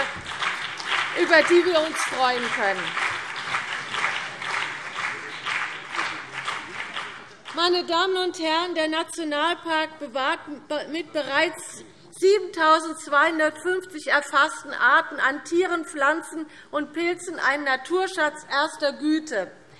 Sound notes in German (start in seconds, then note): 3.1 Beifall CDU und BÜNDNIS 90/DIE GRÜNEN